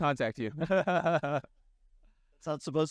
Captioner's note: laughs